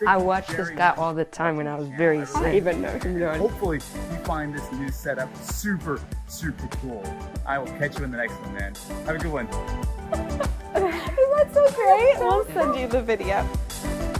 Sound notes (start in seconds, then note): 10.0 laughs; 13.9 bright music